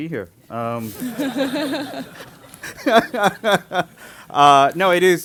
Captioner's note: laughter